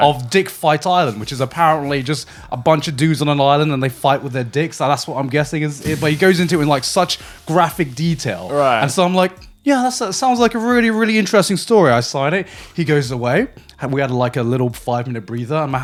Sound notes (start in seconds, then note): none